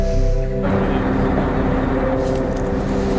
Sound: passengers chatter

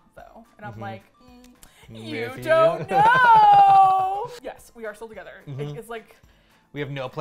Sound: mischievously, singsong; laughs

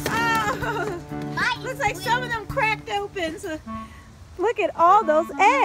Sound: voiceover

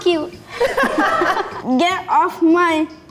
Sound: laughing

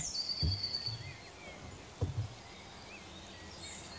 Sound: birds chirping

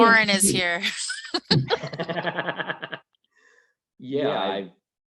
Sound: laughing

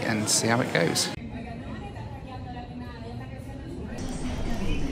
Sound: background chatter

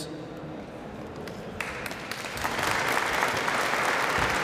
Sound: applause

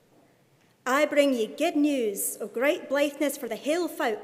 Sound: speaking in Scots

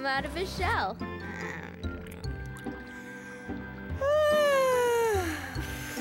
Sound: yawn

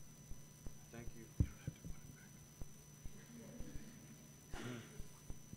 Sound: whispering

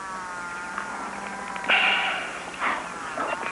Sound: sighs

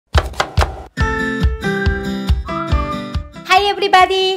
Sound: chopping onion

